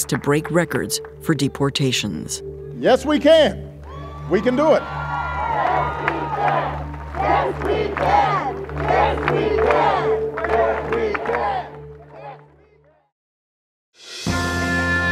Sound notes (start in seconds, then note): 5.2 chanting